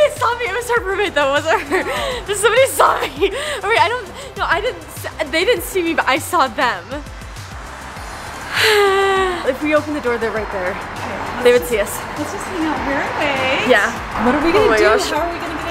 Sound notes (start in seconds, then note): 7.9 exhales